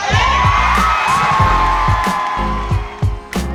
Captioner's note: crowd cheers